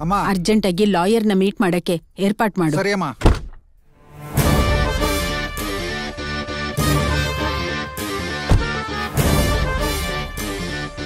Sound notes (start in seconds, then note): none